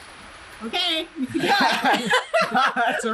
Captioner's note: laughter